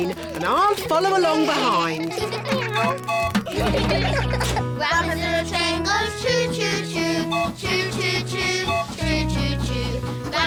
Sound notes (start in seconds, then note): 2.6 tooting; 3.3 all giggling